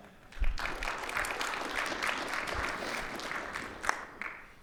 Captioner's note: audience applauds